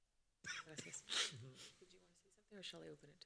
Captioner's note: moderator speaking Spanish